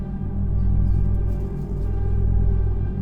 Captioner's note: threatening ambient music; A threatening electronic rumble